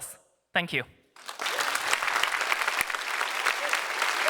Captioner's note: applause